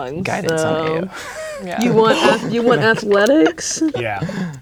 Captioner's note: players laughing